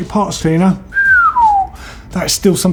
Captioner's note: whistles